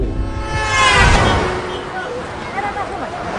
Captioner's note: foreign language; car horns blaring